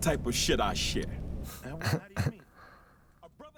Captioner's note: chuckle